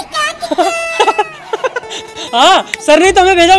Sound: laughs

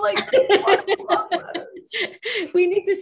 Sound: laughing

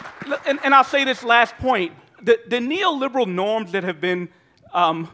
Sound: applause

